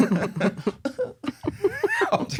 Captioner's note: fake-crying